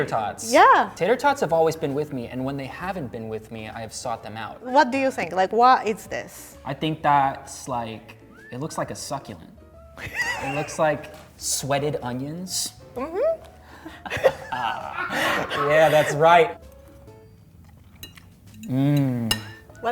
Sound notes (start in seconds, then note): 10.0 laughs; 13.8 laughs; 17.5 chews